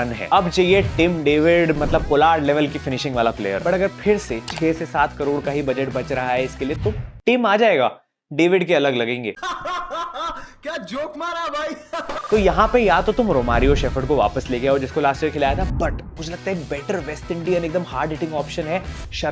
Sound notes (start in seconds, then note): 9.4 laughing